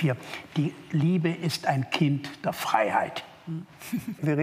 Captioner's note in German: Leichtes Lachen